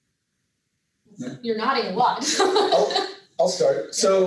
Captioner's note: laughs